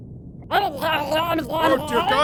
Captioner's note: garbled baby sounds